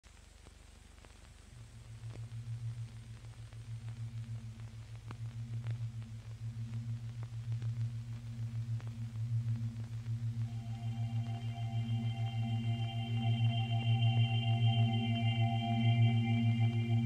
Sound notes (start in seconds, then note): 0.1 vinyl crackling; 10.0 spherical music